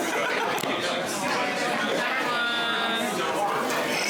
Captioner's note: crowd chattering